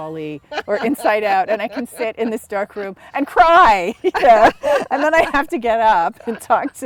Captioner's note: laughter